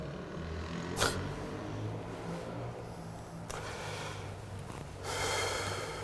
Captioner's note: distant motorcycle